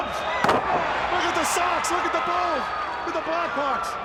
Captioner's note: crowd cheering